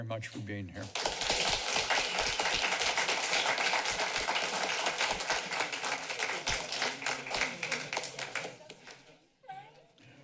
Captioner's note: applause